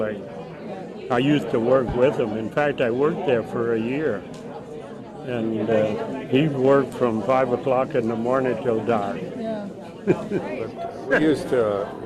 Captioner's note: chuckles